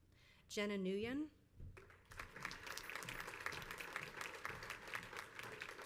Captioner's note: crowd applauds